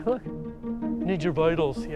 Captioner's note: immitating Pascal's voice